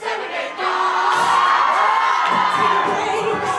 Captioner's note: crowd cheering